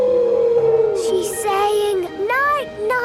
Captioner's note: whale calling